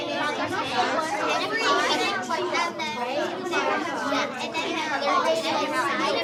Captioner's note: children chattering continues